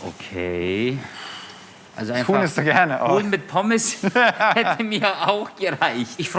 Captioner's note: laughs